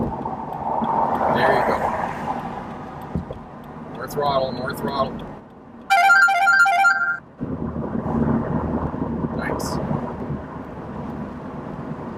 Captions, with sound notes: There you go. More throttle, more throttle. (loud ringtone) - Nice.